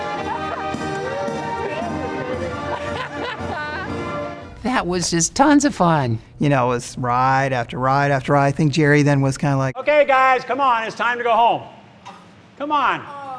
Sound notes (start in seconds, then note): 0.0 gleeful laughter - Music